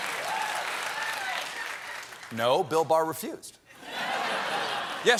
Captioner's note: laughter